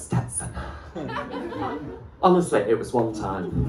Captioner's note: laughter